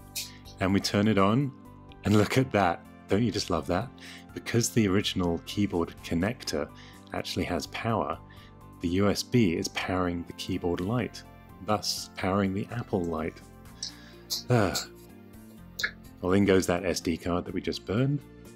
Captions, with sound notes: And we turn it on and look at that! Don't you just love that?! Because the original keyboard connector actually has power The USB is powering the keyboard light thus powering the Apple light (Sigh of relief) Well, in goes that SD card that we just burned.